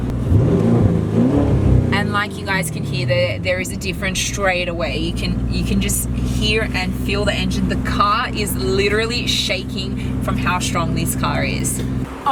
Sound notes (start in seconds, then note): 1.5 vrrrrooooom-vrrrrrrooom!